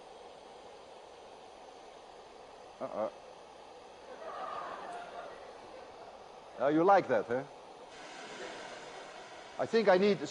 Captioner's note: laughter